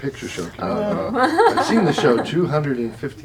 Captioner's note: laughter